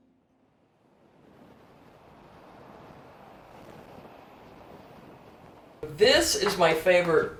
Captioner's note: highway sounds